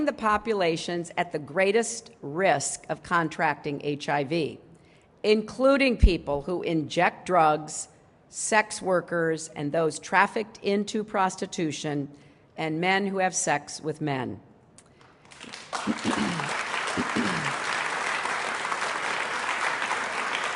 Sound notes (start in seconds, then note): 15.0 applause